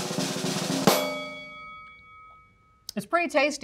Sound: drum roll; bell dings

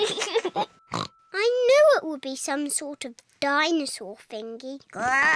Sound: oinks; laughs; oinks; growls

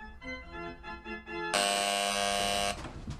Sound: door buzzer

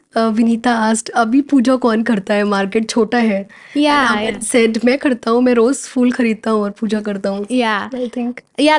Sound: speaking in Hind

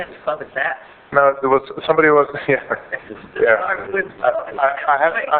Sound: laughter

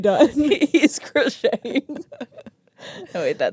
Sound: laugh

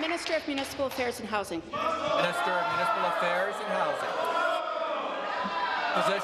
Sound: applause

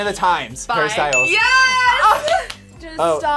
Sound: buzzer rings; laughs

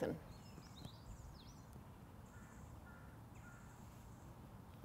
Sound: birds chirping

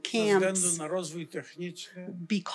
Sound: foreign language

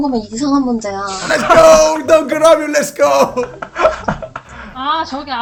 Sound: laughter

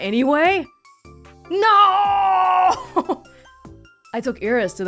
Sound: chuckles

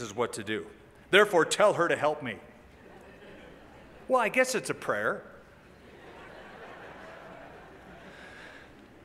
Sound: laughter

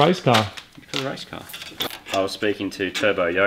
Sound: cable tie zips

